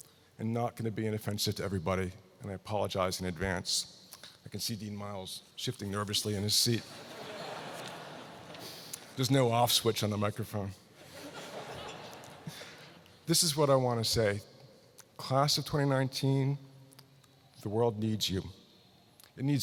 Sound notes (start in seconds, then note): 6.8 laughter